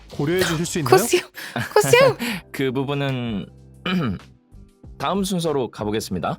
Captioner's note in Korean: 웃음